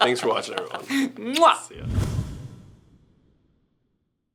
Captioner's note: kissing